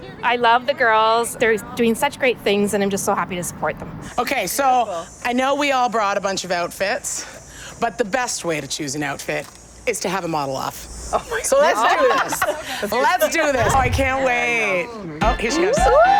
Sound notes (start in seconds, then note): 11.2 laughter